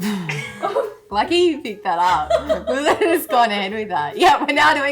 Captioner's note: laughing